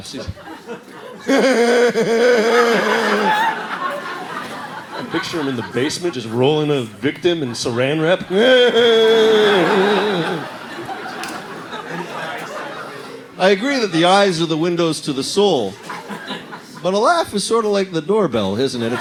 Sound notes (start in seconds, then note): 1.0 maniacal laughter; 8.2 more disturbing laughs